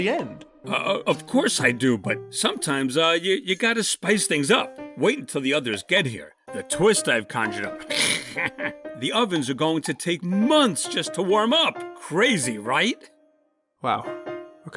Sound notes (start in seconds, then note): 7.8 snickers